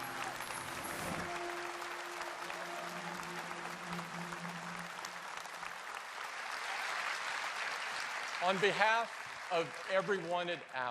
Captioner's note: applause